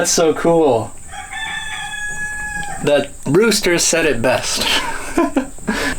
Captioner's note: cock-A-Doodle-Doo